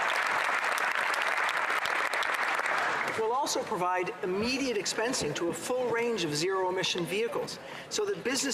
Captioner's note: applause